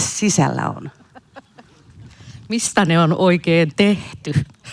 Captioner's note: naurua